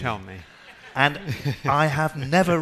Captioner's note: laughing